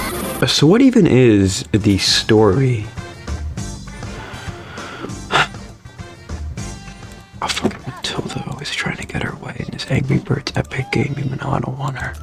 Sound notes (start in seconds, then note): 5.2 exhales Oxygen